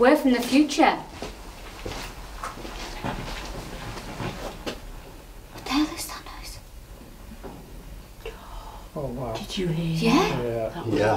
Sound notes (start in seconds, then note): 4.8 clattering; 7.7 quiet thumping